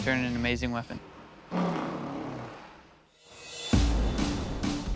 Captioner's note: blows raspberry